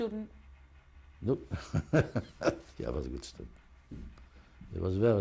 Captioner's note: laughs